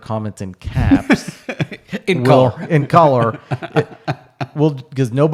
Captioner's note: laughing